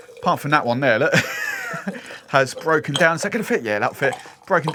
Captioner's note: laughter